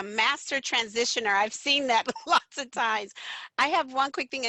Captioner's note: laughter